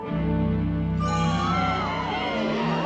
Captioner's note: crowd gasping